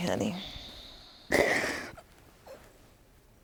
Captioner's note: sobs